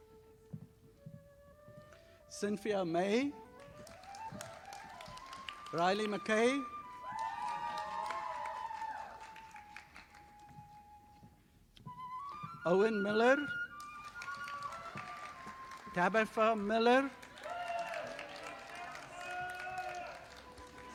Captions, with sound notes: Cynthia May. (audience applauding) Riley McKay. (audience applauding) Owen Miller. (audience applauding) Tabitha Miller. (audience applauding)